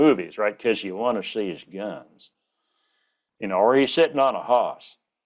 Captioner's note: Texas drawl